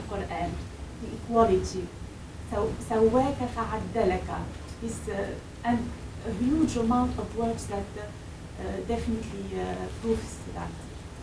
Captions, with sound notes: in Quran, the equality. (speaking foreign language) And a huge amount of words that definitely proves that.